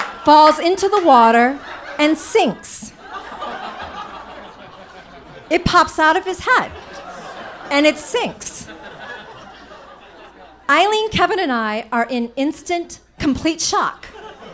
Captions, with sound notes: falls into the water and sinks. (audience laughing) It pops out of his head and it sinks. (audience laughing) Eileen, Kevin and I are in instant complete shock.